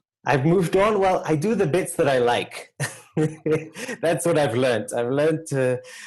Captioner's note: laugh